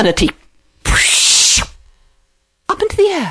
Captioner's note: whooshing noise